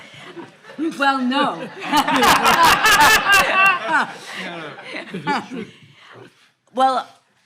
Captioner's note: all laughing